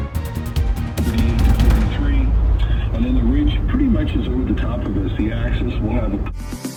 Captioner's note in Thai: เสียงจากวิทยุ